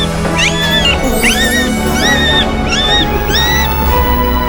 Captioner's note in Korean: 수술실에서 울리는 새 생명의 울음 소리